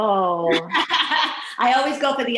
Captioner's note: laughing